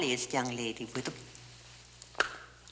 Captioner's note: hands clap